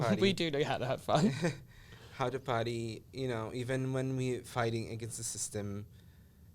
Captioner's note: laughs